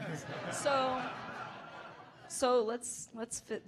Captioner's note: audience laughing